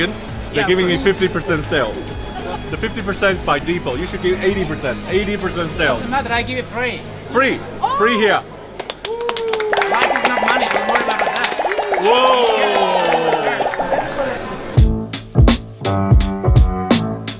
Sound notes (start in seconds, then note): 8.7 applauding; 14.7 upbeat music